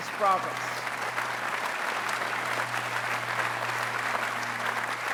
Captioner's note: applause